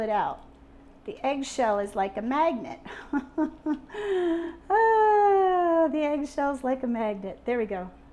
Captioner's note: laughing